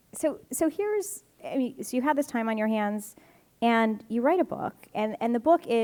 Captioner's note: none